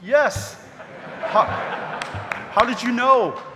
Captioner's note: audience laughing